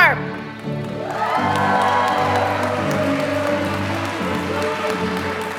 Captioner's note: applause